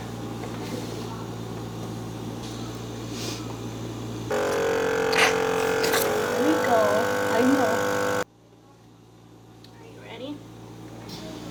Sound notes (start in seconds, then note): 4.3 loud buzz from suction